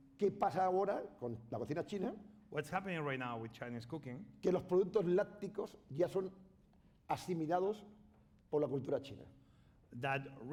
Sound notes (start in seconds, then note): 0.9 speaking spanish; 5.0 speaking spanish